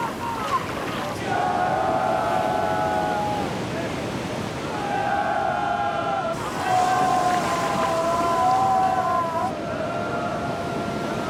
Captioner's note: student's yelling in unison